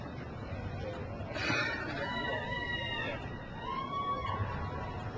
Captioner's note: crowd cheers